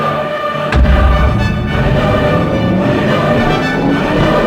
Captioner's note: switch thudding